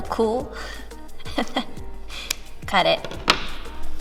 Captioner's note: laughs